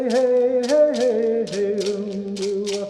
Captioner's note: chanting